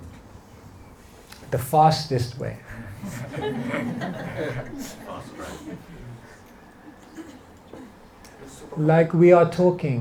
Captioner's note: laughter